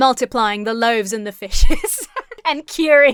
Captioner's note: laughs